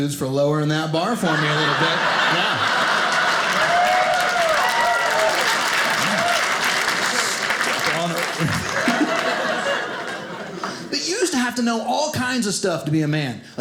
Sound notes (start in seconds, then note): 1.2 audience cheering